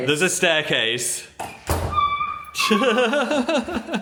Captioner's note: Dan squeals excitedly; Phil laughs